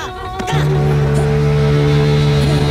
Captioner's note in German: Schiffshorn